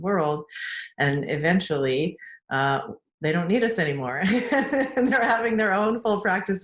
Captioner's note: laughs